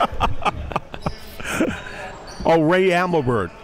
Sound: laughing

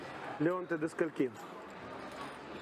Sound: speak russian

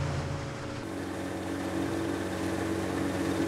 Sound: boat engine runs

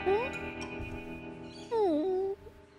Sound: whimpers

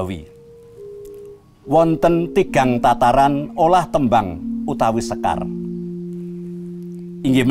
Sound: recited Javanese poetry

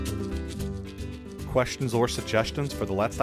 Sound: voiceover

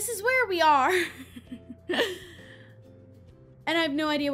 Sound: giggles

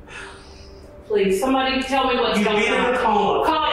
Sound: sighs

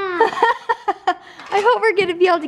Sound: laughs

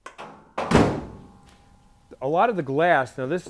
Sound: door slams

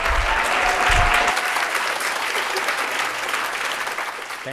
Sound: audience applauding

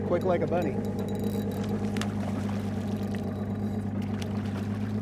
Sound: reel spinning; fish splashing

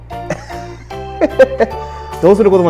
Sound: laughs

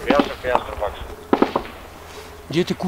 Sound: radio exchange

